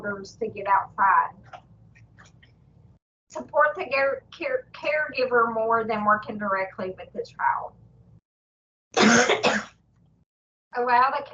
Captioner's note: presenter coughs